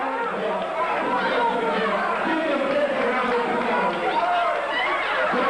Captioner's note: cheering and chanting